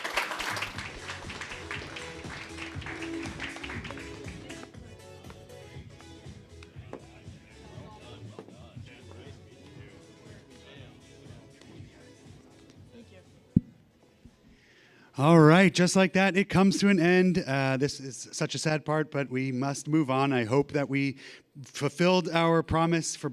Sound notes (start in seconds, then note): 5.1 applause